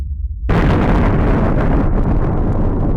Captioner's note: explosion